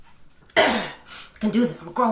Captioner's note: exhales; clears throat